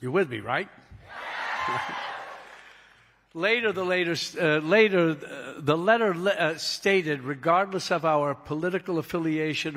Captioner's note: cheering